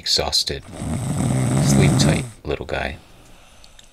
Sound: snoring

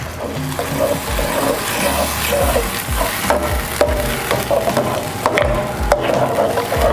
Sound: sizzling; spoon scraping

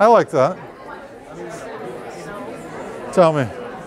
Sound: chatter

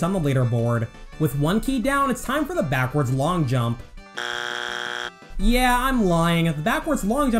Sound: bzzzt

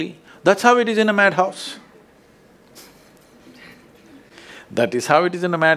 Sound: laughs

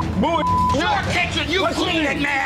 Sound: beep

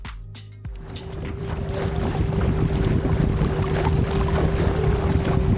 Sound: sound of water and boat engine

